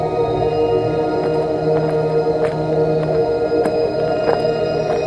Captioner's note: footsteps thumping